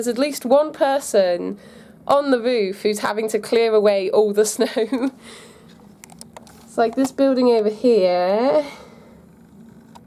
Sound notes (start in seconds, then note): 4.6 laugh